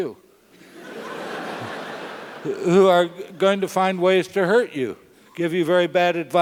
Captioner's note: laugh